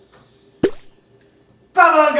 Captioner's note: bubblegum pops